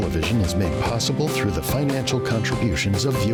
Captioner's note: voiceover